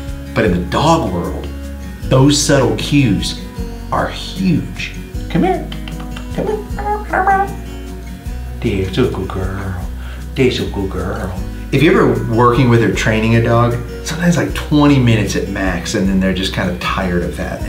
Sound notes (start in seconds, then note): 5.8 smacking; 7.4 muttering